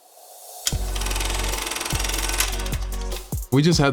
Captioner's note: camera projector running